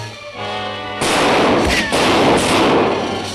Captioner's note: gunshots